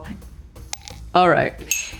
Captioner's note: sugar thuds